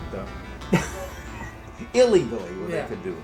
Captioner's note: laughter